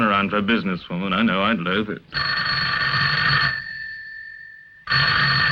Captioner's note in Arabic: رنين الهاتف